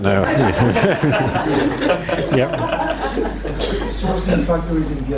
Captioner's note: audience laughs; laughs